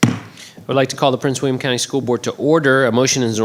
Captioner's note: gavel banging